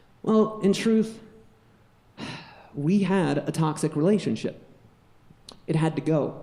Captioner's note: sighs